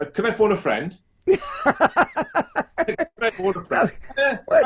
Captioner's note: laughs loudly